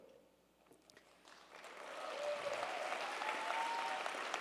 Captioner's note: crowd cheering